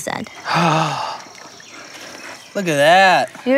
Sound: gasps

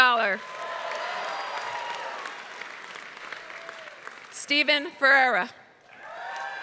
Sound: applause

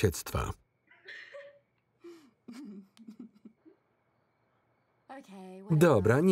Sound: Kym and Lana laughing

